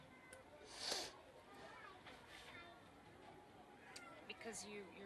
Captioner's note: sniffles